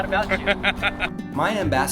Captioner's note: laughing